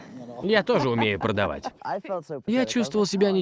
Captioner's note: both laugh